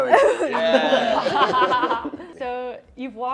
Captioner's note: laughter